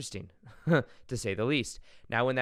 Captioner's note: chuckles